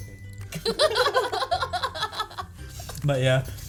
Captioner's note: laughs